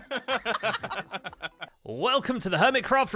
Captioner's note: laughter